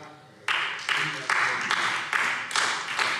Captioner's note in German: Beifall SPD